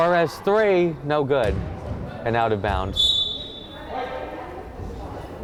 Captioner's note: whistle blowing; crowd chattering